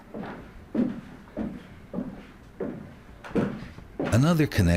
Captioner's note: footsteps tapping